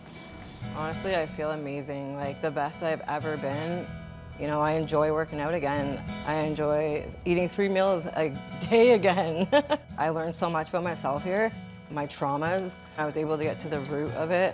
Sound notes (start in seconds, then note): 9.4 laughing